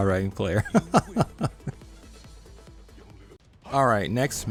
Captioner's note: laughs